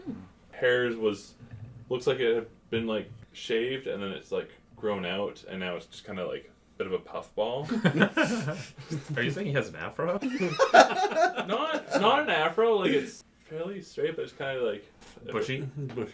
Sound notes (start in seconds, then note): 7.6 laughter; 10.2 laughs loudly